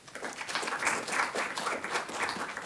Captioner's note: applause